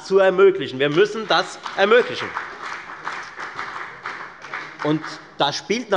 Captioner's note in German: Beifall bei der FDP